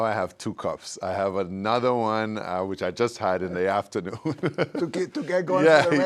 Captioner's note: laughs